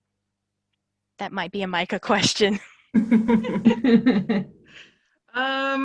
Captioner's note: laughter